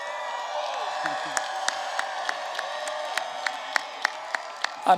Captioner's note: applause